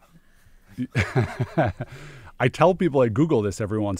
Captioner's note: laughs